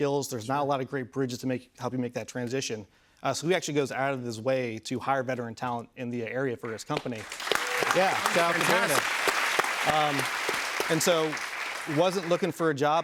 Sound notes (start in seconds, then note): 7.0 cheers and applause